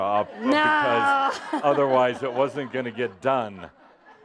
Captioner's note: laughter